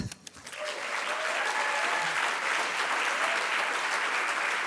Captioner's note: audience applauding